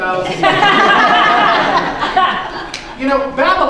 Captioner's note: laughter